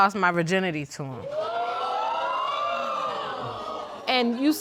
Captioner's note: audience exclaiming